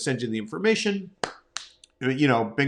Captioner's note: clapping